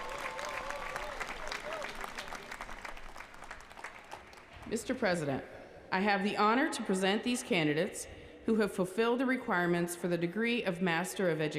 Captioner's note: applause